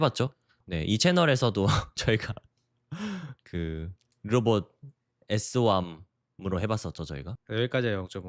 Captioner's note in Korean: 웃음